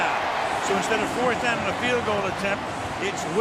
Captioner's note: cheering